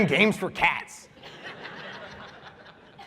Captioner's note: laughter